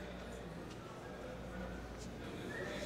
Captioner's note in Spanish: bullicio